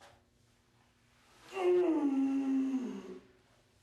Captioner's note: groaning